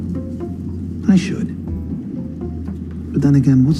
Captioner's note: soundbite of tv show, "billions"